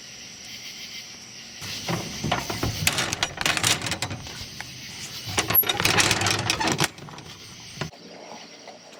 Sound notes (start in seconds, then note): 1.6 door clangs shut; 5.6 lock clatters